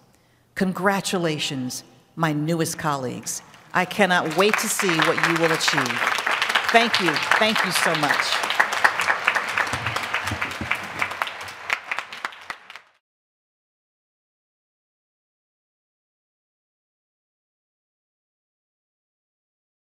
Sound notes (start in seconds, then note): 8.5 applause